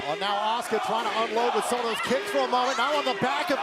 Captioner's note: crowd cheering